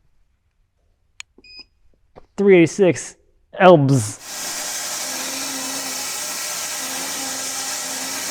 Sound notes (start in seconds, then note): 4.1 saw whirring